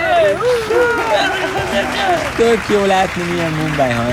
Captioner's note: clap, clap